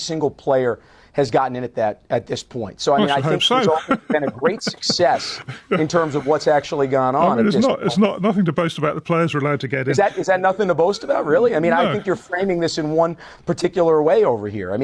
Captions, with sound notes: single player has gotten in at that, at this point. I should hope so. [laughs] So I mean, I think this all has been a great success actually gone on at this point. I mean, it's not, it's not, nothing to boast about. The players are allowed to get in. Is that, is that nothing to boast about, really? No. I mean, I think you're framing this in one